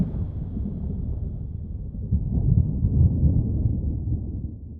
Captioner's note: thunder